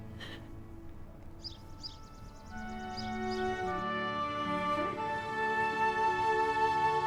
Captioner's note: crying; gentle music; birds chirping